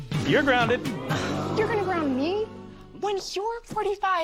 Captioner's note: audience: Oooooo!